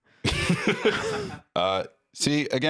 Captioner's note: laugh